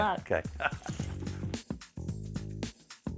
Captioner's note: chuckles